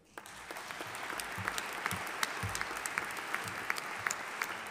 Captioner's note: audience applauding